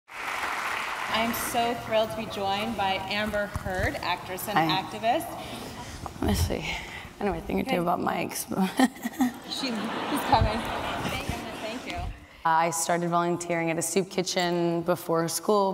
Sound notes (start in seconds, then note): 8.7 laughter; 11.4 audience laughs